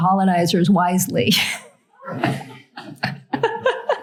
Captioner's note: laughter